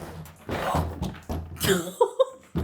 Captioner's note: gasping; laughing